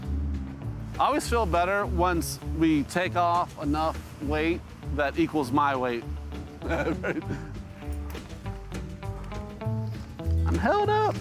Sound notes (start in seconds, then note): 6.6 chuckles; 7.8 upbeat music continues